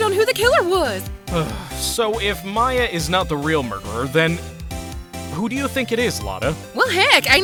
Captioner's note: sigh